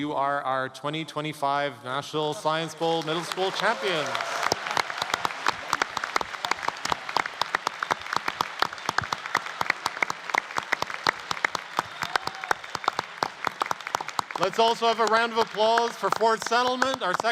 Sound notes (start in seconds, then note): 5.5 applause